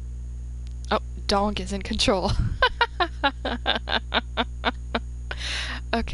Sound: laughs

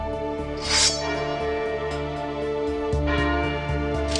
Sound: dramatic music; sword unsheathes; bell tolls

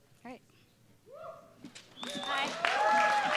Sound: applause

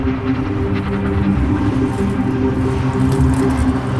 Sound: cacophonic city sounds

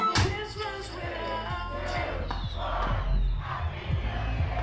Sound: background party

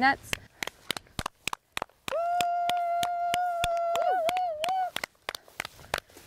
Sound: clapping and whooping sounds

